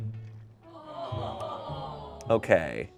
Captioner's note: crew exclaims